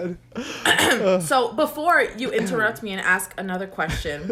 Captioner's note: clears throat